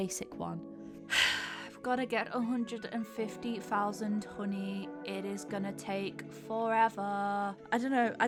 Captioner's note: sighs